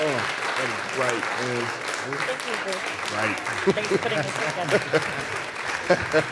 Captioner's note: applause and cheering; applause